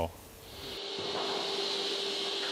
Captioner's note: motor roar